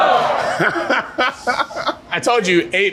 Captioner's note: laughing